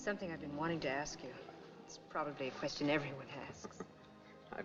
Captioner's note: chuckles